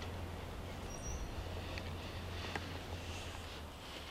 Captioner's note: birds chirp